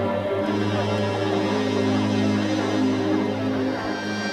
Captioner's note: people talking